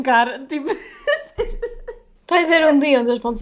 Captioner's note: laughs